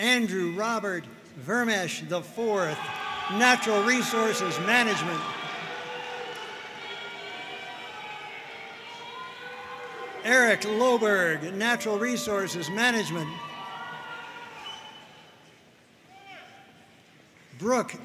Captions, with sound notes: Andrew Robert Vermes IV, Natural Resources Management. (audience cheering and applauding) Eric Loberg, Natural Resources Management. (audience cheering)